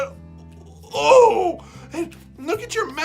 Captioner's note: gagging